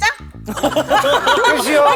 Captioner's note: laughs